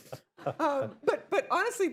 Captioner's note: laughter; laughs